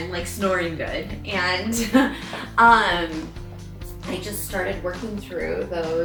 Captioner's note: laughs